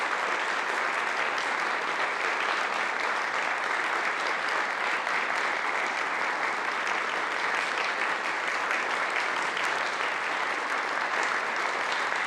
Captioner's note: applause